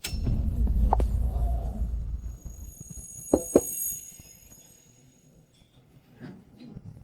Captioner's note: doorbell rings